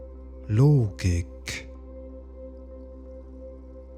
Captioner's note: german